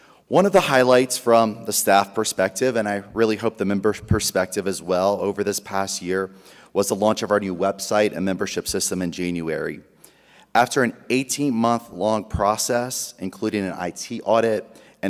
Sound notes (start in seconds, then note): none